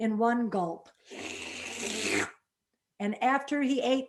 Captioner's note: slurps